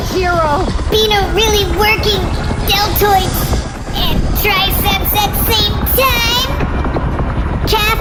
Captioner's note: straining